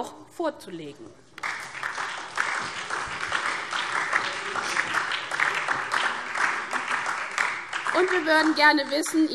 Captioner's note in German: Beifall SPD und DIE LINKE